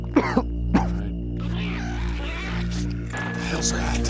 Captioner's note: coughs; screeching